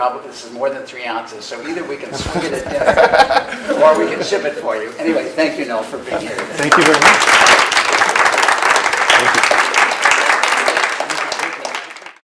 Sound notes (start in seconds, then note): 2.0 laugh